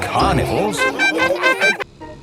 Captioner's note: laughing